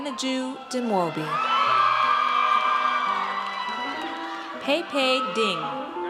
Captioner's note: audience cheers